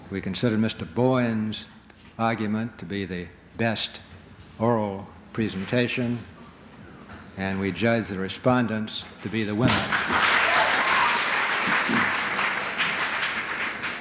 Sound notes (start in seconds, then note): 9.8 applause